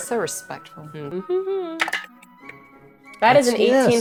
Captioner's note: hums; die rattling